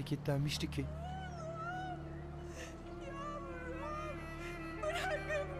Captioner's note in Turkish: Kadın ağlama sesi